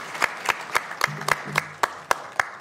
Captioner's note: applause